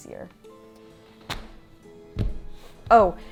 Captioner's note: fabric thuds